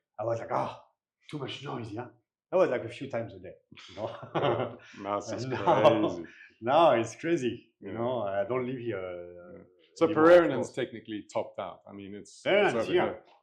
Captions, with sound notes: I was like, "Ah, too much noise, yeah." I was like a few times a day. (laughing) Now it's just crazy Now it's crazy, you know, I don't live here. So Pererenan is technically topped out. I mean, it's over here.